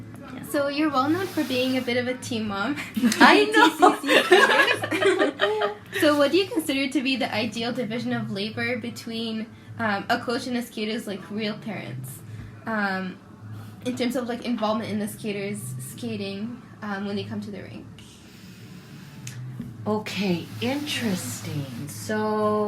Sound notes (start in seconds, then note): 2.9 laughs; 6.2 laughter